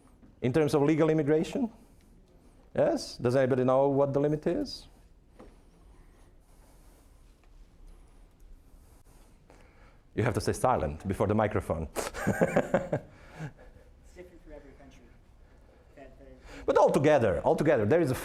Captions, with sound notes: IN TERMS OF LEGAL IMMIGRATION... YES? DOES ANYBODY KNOW WHAT THE LIMIT IS? YOU HAVE TO STAY SILENT BEFORE THE MICROPHONE. (laughing) >> IT'S DIFFERENT FOR EVERY COUNTRY, BUT-- >> BUT ALL TOGETHER-- ALL TOGETHER.